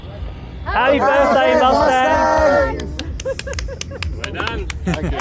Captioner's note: applause